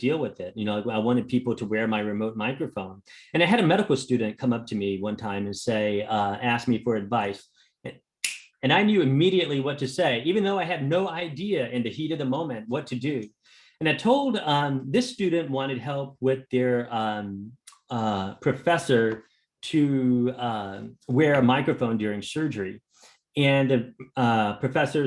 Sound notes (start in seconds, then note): 8.2 snaps fingers